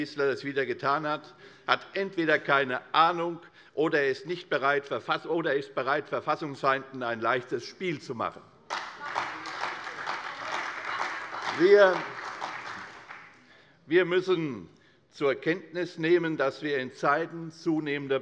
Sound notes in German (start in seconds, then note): 8.6 Beifall bei der CDU und der FDP